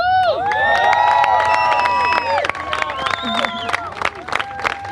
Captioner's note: applause